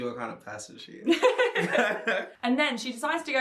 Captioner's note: laugh